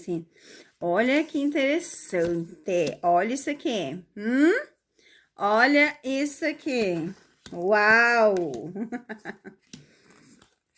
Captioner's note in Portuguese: risadas